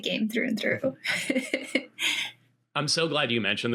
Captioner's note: laughing